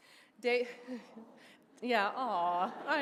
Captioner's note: laughing